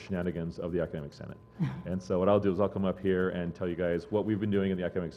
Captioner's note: laugh